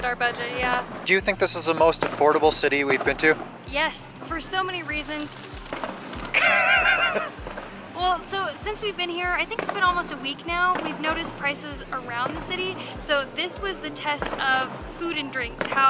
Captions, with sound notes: our budget, yeah. Do you think this is the most affordable city we've been to? Yes. For so many reasons. [Pigeons flying by] [Laughter] Well, so, since we've been here, I think it's been almost a week now. We've noticed prices around the city. So this was the test of food and drinks, how